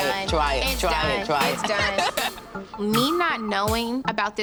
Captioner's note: laughing